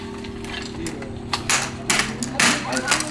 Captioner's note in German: Klappern